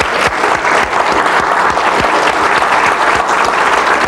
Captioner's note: applause